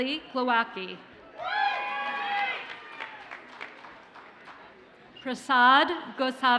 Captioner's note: audience cheers and applauds